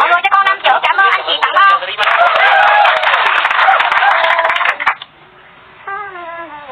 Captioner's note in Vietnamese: Vỗ tay